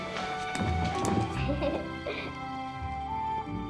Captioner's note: giggles